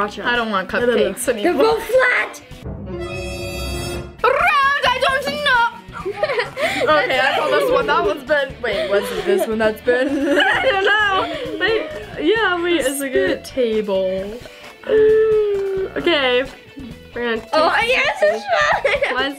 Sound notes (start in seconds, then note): 2.4 ominous music; 5.8 laughs